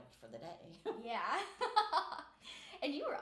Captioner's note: laughing